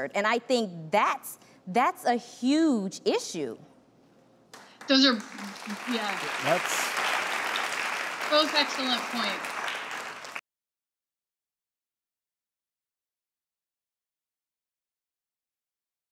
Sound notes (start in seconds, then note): 4.5 clapping